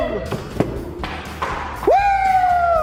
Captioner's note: ball bouncing; all cheering